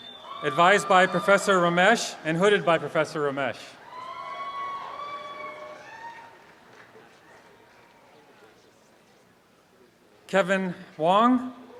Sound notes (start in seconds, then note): 3.8 audience applause